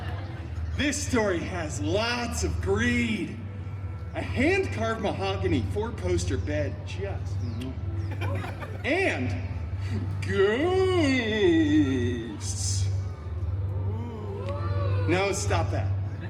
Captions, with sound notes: This story has lots of greed. A hand-carved mahogany four-poster bed just... And... GHOSTS! [guests oohing] No, stop that.